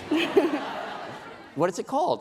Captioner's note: laughing